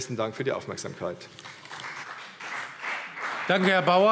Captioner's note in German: Beifall CDU und BÜNDNIS 90/DIE GRÜNEN